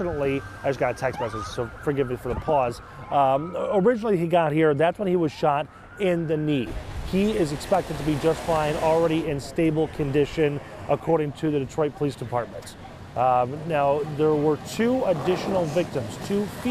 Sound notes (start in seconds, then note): 5.1 siren